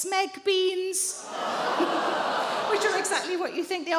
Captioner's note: audience groans